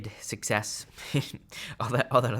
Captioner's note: chuckles